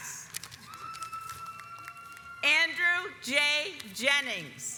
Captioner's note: audience applauds